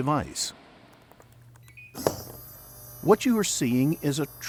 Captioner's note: beeps, whizzes